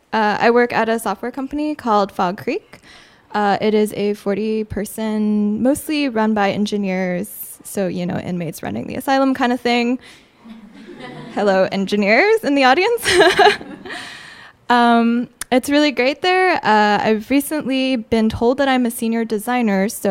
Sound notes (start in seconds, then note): 10.4 audience laughing; 14.8 laughing